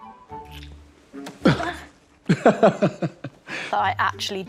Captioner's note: laughing